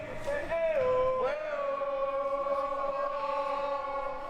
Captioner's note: audience chanting